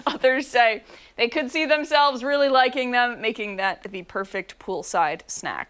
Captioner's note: laughter